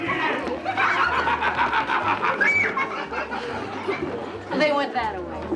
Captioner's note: Bill and kids laughing